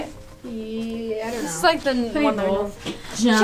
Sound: murmurs

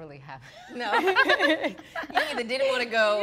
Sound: all laughing

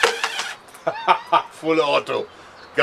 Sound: laughing

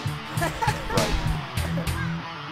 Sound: laughs

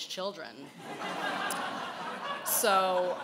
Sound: laughing

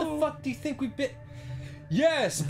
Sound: takes a much needed deep breath

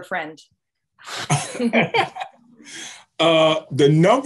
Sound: laughs

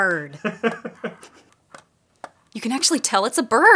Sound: laughter

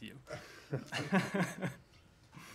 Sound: laughter

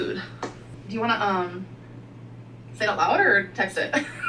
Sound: laughing

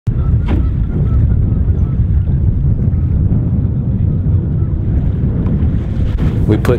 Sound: honking geese and humming of boat motor

